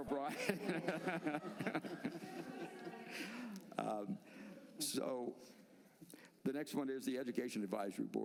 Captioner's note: laughter